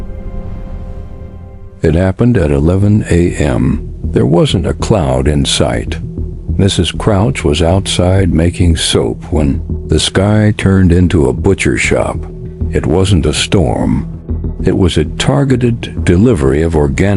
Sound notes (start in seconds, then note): 7.0 sarcastic Commentary